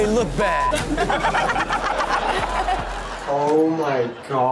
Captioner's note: everyone laughs